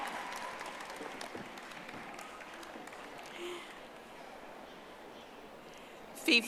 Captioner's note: audience applauding